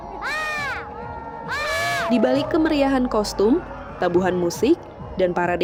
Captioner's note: screaming